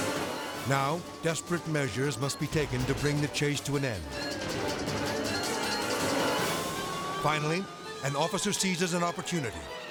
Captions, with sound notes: Now, desperate measures must be taken to bring the chase to an end. (siren blares) (intense music) Finally, an officer seizes an opportunity.